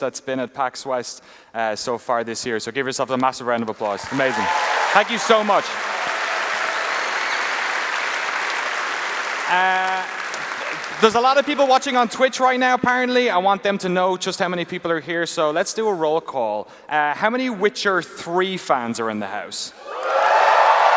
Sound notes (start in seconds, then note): 7.0 applause